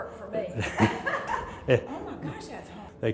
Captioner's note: laugh